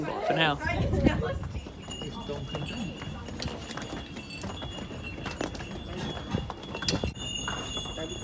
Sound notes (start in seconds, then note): 1.0 hoofbeats; 1.0 jingling chimes